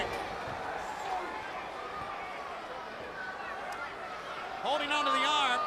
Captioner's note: crowd chatter